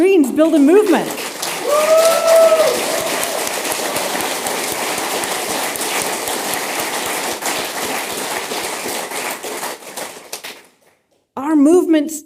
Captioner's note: applause